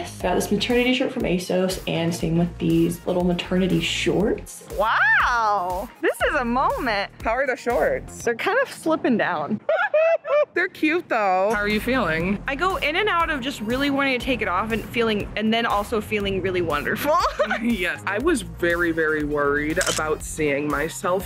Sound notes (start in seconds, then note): 9.6 laughing